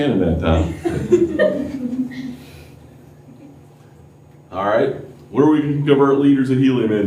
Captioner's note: laughter